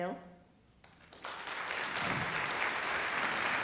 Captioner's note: applause